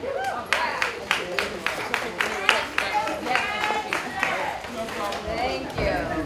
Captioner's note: applause